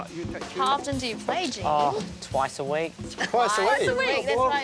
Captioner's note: chatter, laughter